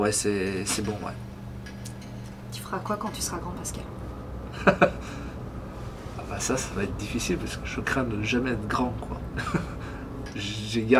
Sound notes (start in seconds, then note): 4.5 laughs